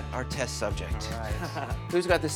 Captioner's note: chuckles